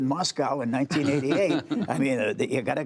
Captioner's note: laughter